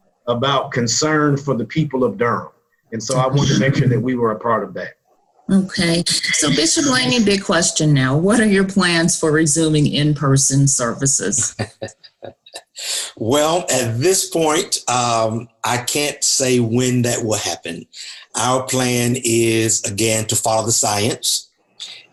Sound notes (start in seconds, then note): 11.9 laughing